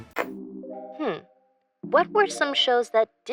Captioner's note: computer Voice